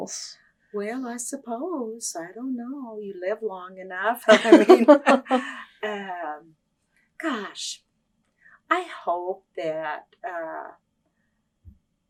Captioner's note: laughter